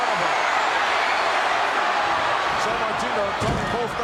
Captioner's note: audience cheering